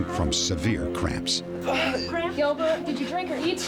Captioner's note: groans